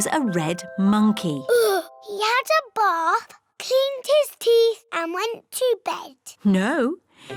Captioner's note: sighs